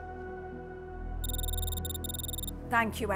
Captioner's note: text whirring